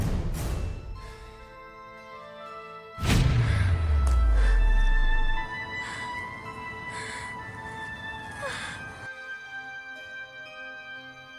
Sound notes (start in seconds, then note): 5.5 gasping final breaths